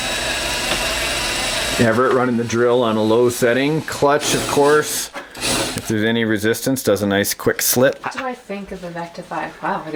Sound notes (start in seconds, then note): 2.0 voiceover